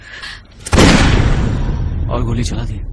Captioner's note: gunshot